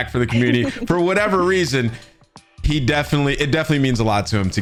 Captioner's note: giggles